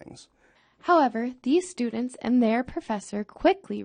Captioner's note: voiceover